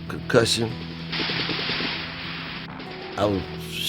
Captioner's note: guns firing